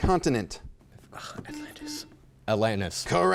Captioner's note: buzzer chimes